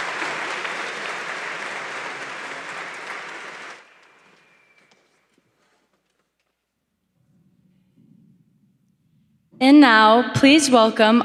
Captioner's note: applause